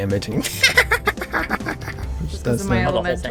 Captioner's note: evil laugh